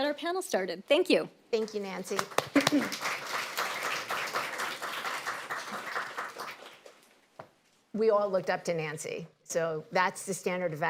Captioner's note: applause